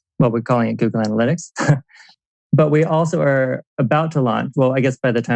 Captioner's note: laughs